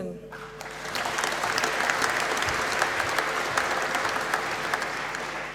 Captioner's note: applause